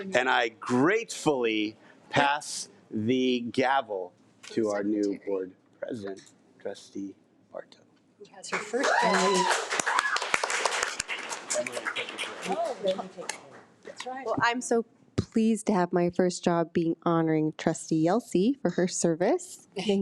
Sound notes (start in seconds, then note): 8.6 audience applause